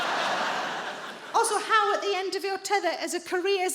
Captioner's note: audience laughing; normal voice